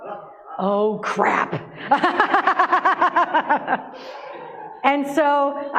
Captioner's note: laughter